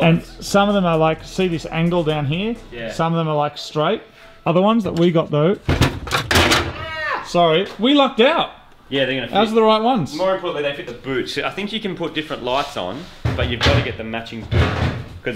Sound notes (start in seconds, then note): 5.6 yelps; 5.6 clatters and thuds; 13.3 clattering